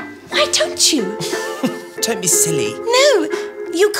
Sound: Cecile chuckles

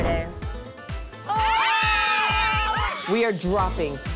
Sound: yelling

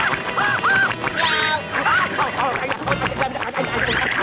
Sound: screaming

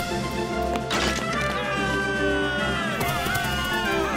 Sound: troops yelling

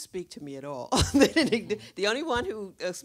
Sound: Dash laughs

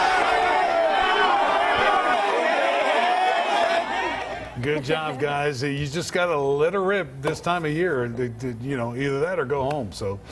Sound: cheers and applause

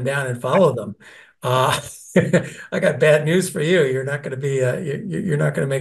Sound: laugh

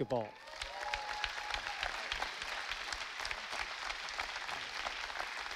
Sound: audience applauding

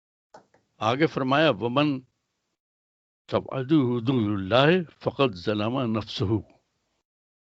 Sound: recites arabic

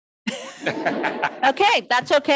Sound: audience chuckling

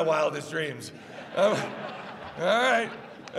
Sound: laughs

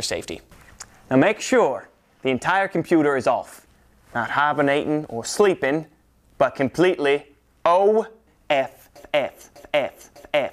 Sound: bad Southern Accent

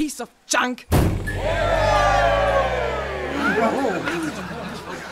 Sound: everyone cheering again

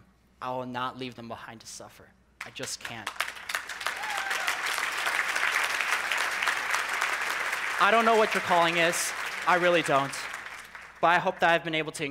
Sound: people clapping

